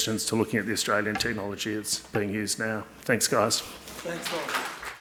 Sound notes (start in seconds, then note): 4.0 audience applauding